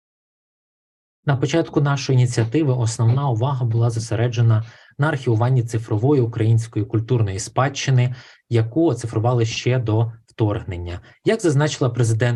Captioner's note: foreign Language Spoken